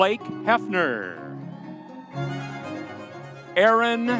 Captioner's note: audience cheering